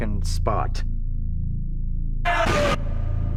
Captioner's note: screams